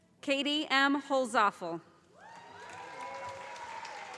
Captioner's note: calling Graduate Names